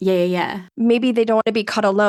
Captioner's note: none